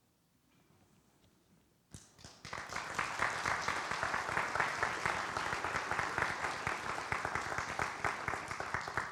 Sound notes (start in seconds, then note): 2.4 audience applauds